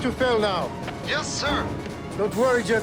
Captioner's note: pilot over radio